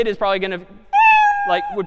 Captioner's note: meow